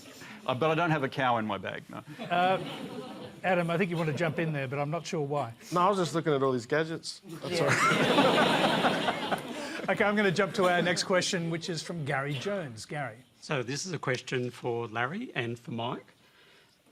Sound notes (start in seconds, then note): 7.5 laughter